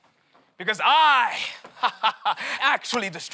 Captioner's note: laughs